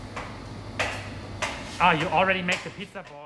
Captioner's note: clanking os surfaces